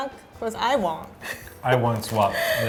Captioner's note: laughing